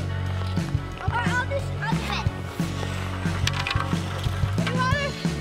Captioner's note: kids chatting; upbeat music continues